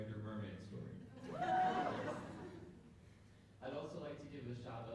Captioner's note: applause